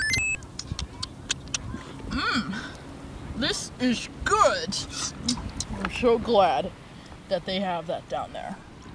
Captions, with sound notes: [MUNCHING, CHEWING] Mmm. This is good. I'm so glad that they have that down there.